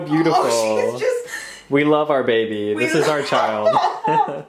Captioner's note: laughing; laughs